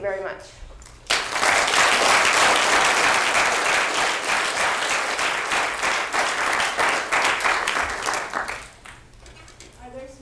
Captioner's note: applause